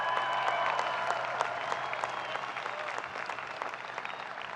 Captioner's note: people clapping